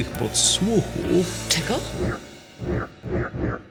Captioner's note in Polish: głos graczy